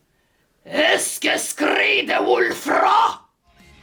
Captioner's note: alien sounds